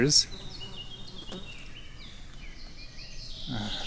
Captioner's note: birds chirping